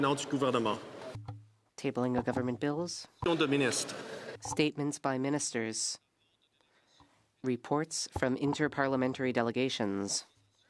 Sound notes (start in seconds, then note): 4.4 speaking French